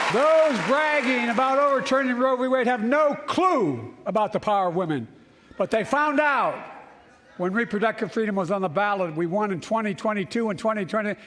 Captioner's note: cheers and applause